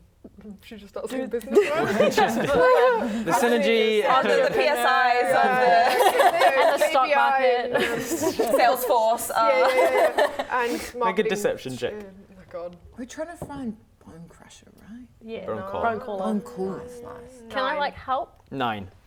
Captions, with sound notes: Should we just start saying business words? *laughing* The synergy Entrepreneur - Yeah the PSIs of the Who's the big- And the stock market - KBI and Salesforce Yeah yeah yeah Make a deception check - marketing Oh my god We're trying to find Bonecrusher, right? Yeah, no Bonecaller Bonecaller Nice nice Can I like help? Nine